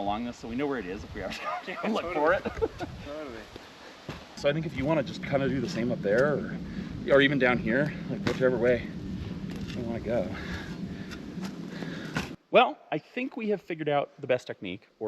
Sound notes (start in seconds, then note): 1.2 laughs; 11.3 spade thudding